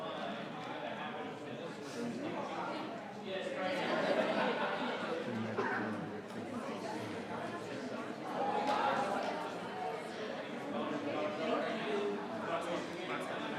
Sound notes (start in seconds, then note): 7.6 people continue chattering